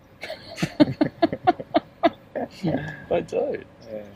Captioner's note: laughing